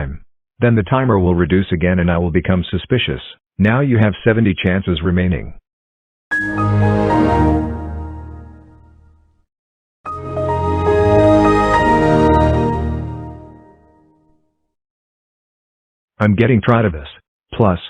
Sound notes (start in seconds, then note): 6.3 Windows XP Shutdown; 10.0 Windows XP Startup